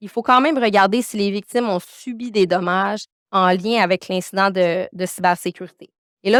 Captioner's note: continues speaking French